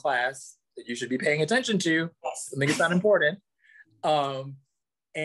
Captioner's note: laughs